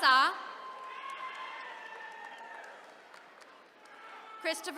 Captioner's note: attendees cheering